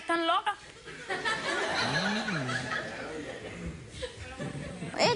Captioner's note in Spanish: Risas del público